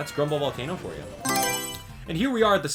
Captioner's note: Mario Selection Sound